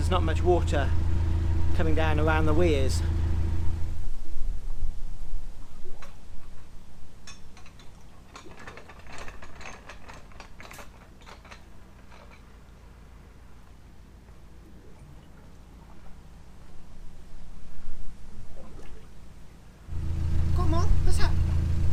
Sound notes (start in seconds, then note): 16.8 bubbling water